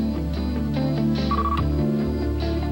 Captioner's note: phone rings briefly, stops when button pressed